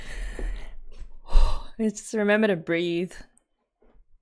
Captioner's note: exhale